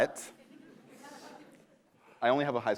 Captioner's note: laughter